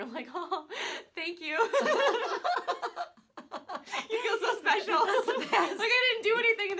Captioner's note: laugh